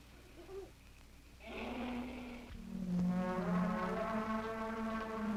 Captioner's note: elephants trumpeting